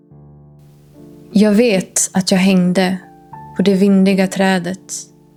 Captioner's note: Dramatic reading of Odin's Song from the Poetic Edda in Swedish